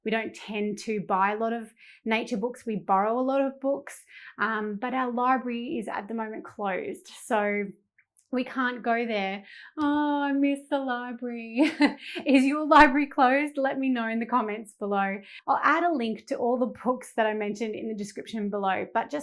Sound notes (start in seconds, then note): 11.6 chuckling